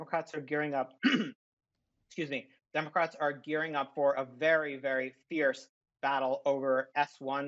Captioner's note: clears throat